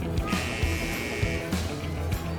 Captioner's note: buzzer